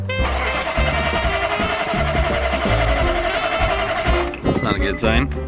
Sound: truck sputtering

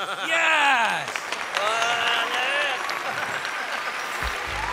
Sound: audience cheering

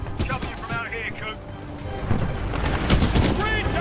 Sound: radio

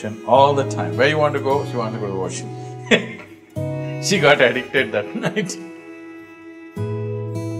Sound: laughs

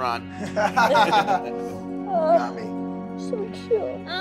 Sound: laughs

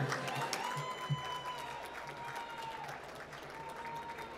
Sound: applause

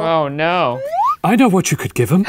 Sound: slide whistle

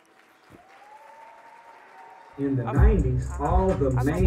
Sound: audience cheering

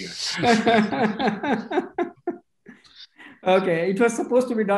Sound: laughs

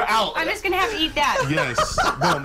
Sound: laughter

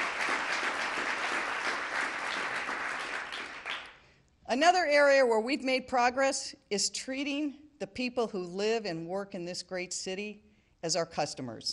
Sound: applause

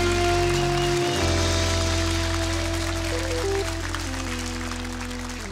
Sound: audience applauding; jazz music

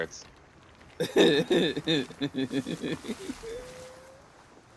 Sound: evil laughter

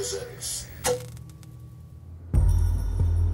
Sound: noise of old television shutting down

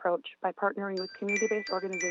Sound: chime

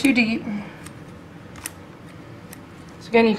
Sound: scissor-clipping sounds

